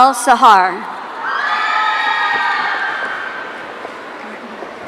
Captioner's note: audience cheering